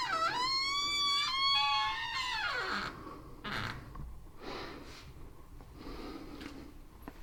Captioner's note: door creaks open